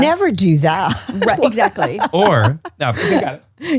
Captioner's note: laughs